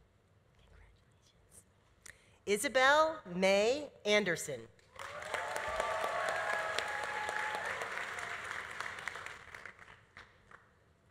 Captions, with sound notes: Congratulations. Isabel May Anderson. (audience applauding) (audience cheering)